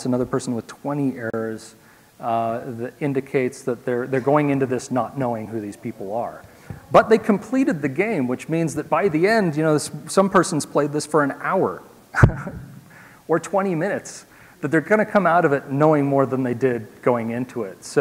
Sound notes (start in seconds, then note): 12.1 laugh